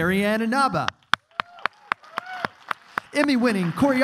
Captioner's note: clapping